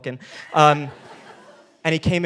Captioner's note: audience laughing